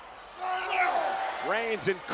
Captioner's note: wrestlers grunting